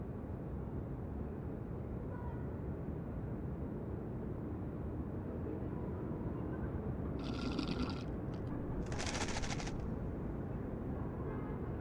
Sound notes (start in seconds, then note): 7.2 Carling slurps; 8.8 ice rattles